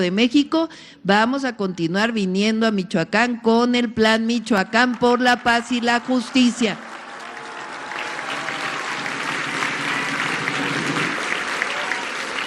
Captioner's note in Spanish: aplausos